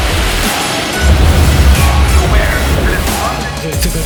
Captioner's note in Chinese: 尖叫聲四起